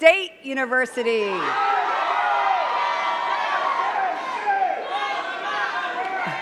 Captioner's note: cheers and claps